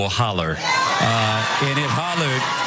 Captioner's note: applause